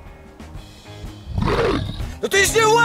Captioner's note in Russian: рёв